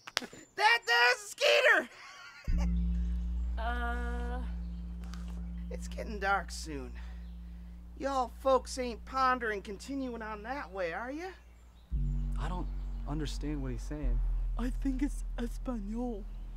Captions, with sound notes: That there's a skeeter. (laughing) - Uh... - It's getting dark soon. Y'all folks aint pondering continuing on that way are ya? - I don't understand what he's saying. - I think it's Espanol.